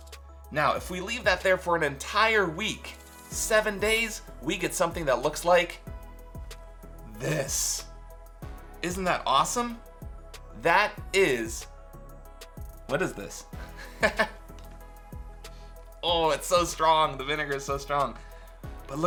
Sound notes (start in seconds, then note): 13.6 chuckles